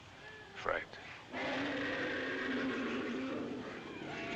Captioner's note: roaring